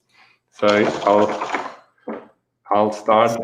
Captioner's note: keyboard clattering